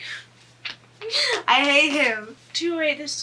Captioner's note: laughs